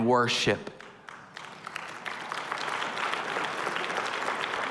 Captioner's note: applause